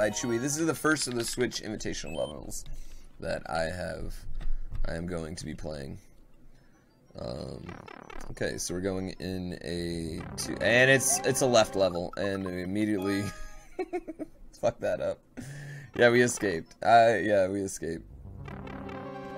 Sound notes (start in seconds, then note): 2.3 bing; 13.4 chuckle